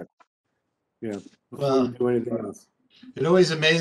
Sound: speaking faintly

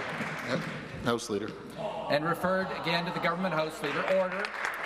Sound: applause

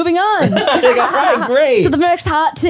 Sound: everyone laughs

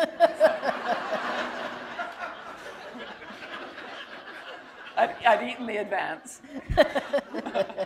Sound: laughter

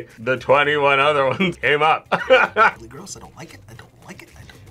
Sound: laughs

